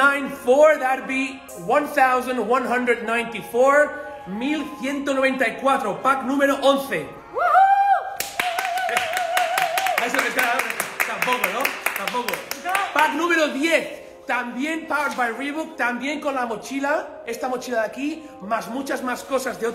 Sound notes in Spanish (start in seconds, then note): 7.4 Cheering